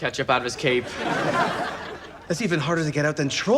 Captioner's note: audience laughs